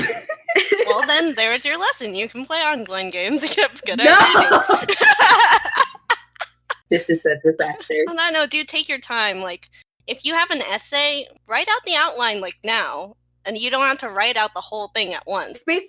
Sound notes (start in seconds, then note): 0.3 laughing